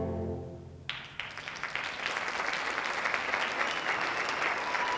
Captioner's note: audience applauding